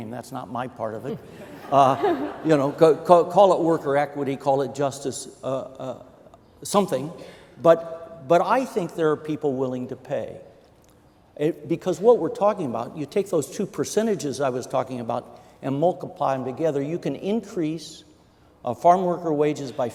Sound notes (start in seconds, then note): 1.1 laughing